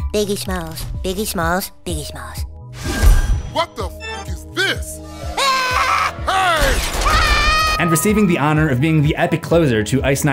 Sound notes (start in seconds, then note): 5.3 screams